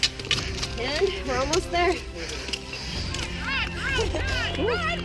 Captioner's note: cheering